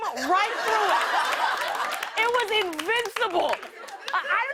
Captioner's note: laughter and applause